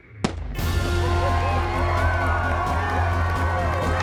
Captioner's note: cheering